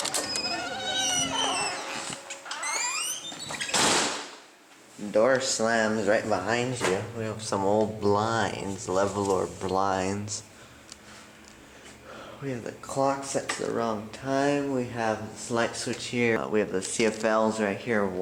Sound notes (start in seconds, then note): 0.0 door squeaking; 3.5 door slams